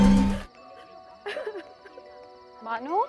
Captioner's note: Bano crying